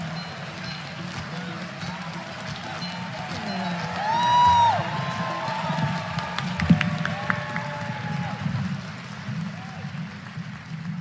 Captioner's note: applause